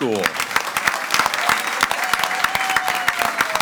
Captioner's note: all applauding